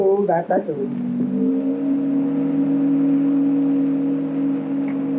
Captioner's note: ship horn sounding